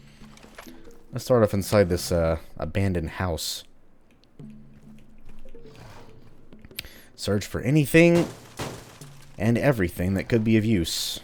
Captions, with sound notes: Let's start off inside this uh, abandoned house. Search for anything... *smash smash* and everything that could be of use.